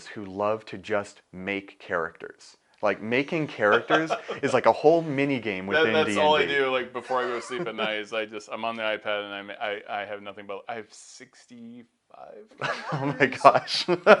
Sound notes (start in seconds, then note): 3.4 laughs; 12.5 laughs